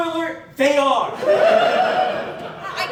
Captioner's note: laughter